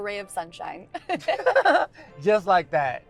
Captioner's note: Michael and Georgia laugh